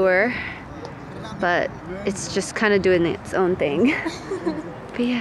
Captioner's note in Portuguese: risos